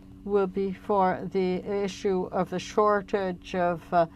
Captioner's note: speaking French